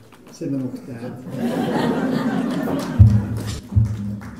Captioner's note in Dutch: publiek lacht